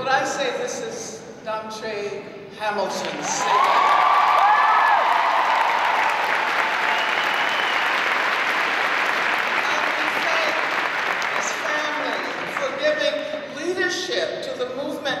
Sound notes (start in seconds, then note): 3.9 audience applauds